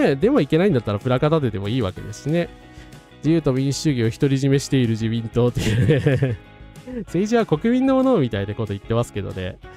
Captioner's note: laughs